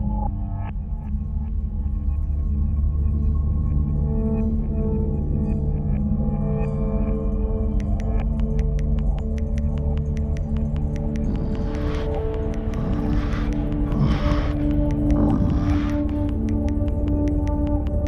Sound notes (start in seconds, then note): 3.9 taut music continues; 11.0 bear grunting